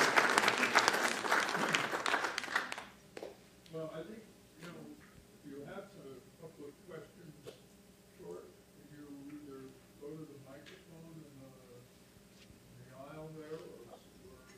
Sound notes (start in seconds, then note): 2.1 applause